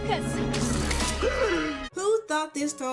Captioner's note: Dr. Facilier gasps